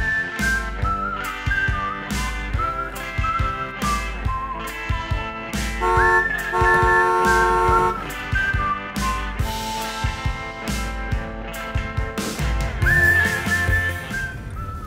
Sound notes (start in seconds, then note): 4.5 horn honks; 12.3 music volume decreases